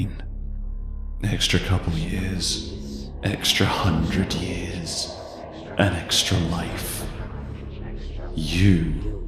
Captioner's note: echoing